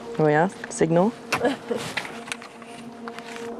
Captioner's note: laughter